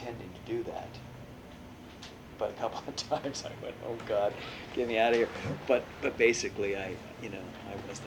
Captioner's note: laughs